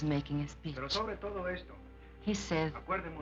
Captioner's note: speaking spanish